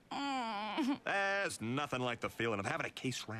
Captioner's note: groans